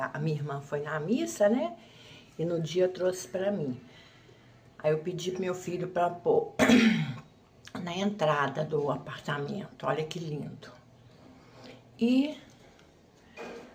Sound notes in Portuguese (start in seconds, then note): 6.6 limpando a garganta